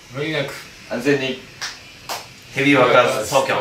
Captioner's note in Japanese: ぱん、ぱん